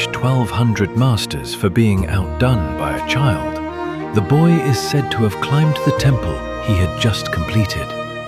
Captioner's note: thoughtful